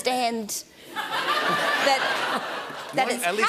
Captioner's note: laughter